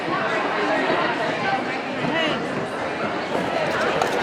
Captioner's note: people chatting